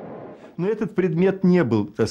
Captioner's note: speaking Russian